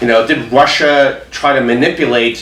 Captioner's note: none